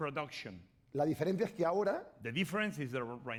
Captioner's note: speaking spanish